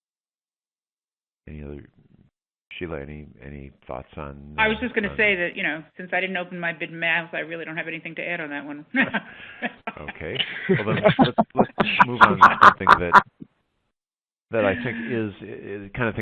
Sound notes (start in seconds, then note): 9.0 laughs; 11.7 laughter